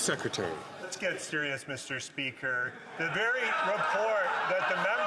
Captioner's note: some Applause